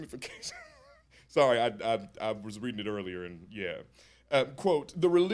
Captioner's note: chuckles